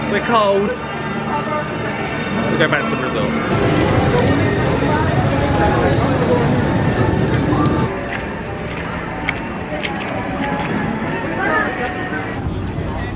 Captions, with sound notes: We're cold. We'll go back to the resort. (dramatic background music) (footsteps walking)